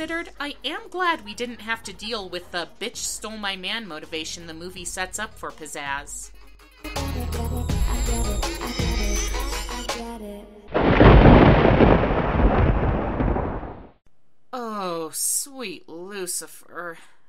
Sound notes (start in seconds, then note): 6.6 edgy pop music; 10.7 thunder